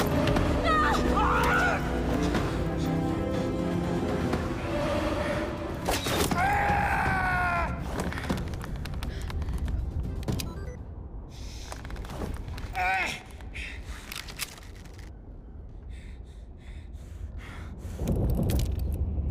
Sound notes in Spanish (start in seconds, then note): 0.6 gritan; 6.3 se queja